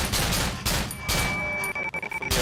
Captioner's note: hackling noises and glock 17 shots; weird glitchy sounds; hackling noises and glock 17 shots again